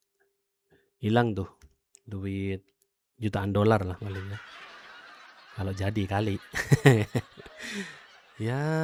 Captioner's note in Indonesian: tertawa